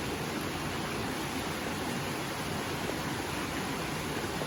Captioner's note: stream flowing